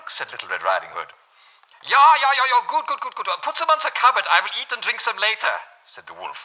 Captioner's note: German accent